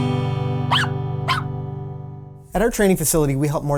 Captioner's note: guitar sounding; dog barking